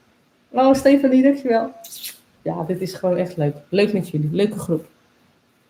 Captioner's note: kiss sound